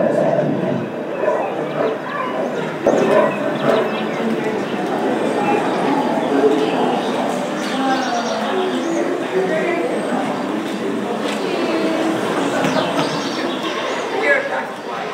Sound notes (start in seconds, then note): 0.0 exhibit sound: several bears loudly roaring and grunting; 2.3 bear panting, forest sounds, birdsong; 6.0 crickets chirping, birds twittering